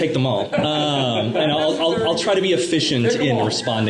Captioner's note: laughter